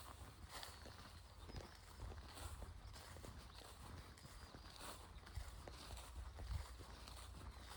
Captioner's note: footsteps